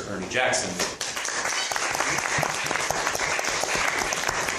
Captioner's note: applause